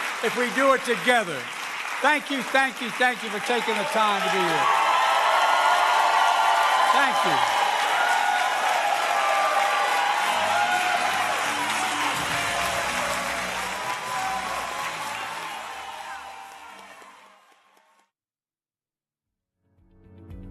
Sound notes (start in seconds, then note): 5.8 applause